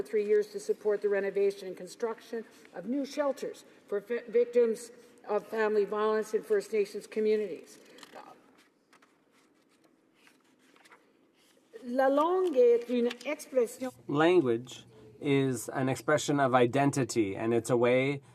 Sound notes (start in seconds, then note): 14.9 speaking French